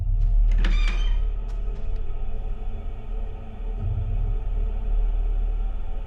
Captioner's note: suspenseful music; door squeaking